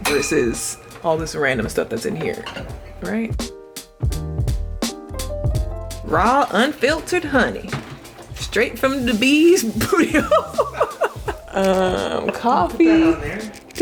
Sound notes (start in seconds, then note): 4.0 upbeat music; 10.2 laughing